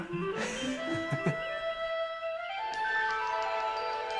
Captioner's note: laughing